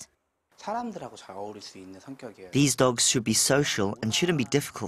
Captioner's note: Korean